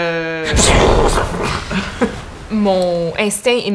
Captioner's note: even more explosions